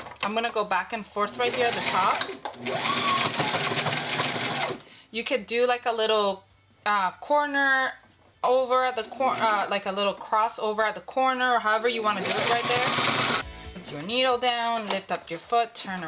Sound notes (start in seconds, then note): 2.8 sewing machine whirs